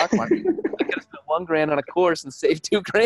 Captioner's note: speakers laughing